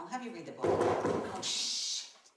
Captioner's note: knocking